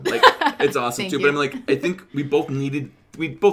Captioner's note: laughs